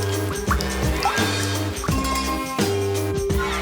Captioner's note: raindrops patters